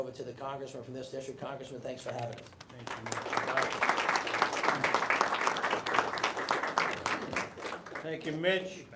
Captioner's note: applause